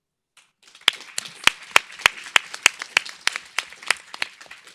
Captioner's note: audience applauds